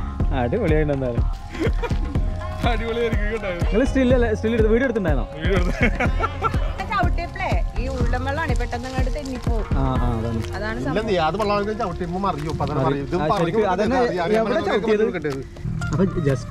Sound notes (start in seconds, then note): 1.5 laughing; 5.6 laughing